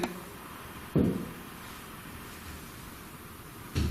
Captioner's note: thuds